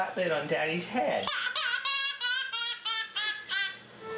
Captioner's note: baby cries